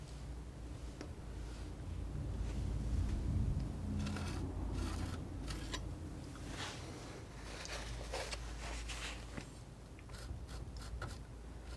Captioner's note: scissors snipping